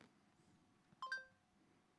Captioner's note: phone dings